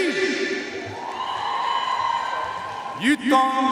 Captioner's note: audience cheering and applauding